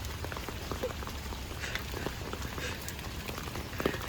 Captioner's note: resumes rain asmr